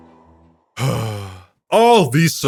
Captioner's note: sigh